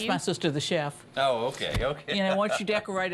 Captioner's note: laughs